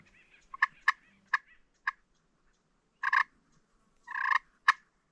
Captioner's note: turkey calling